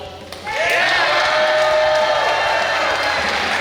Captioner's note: cheering & Clapping